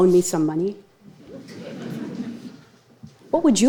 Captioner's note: audience laughing